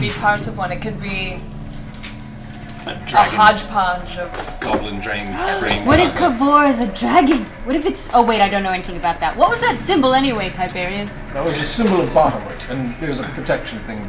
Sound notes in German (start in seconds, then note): 6.3 schnappt nach Luft